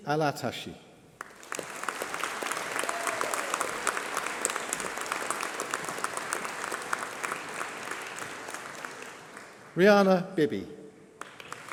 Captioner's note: applause